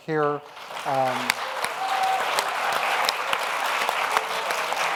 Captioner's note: audience applauds